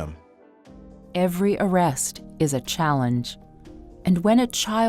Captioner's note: voiceover